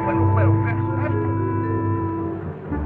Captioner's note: people cheering and chattering; soft instrumental music